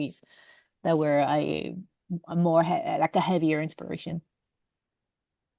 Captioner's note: none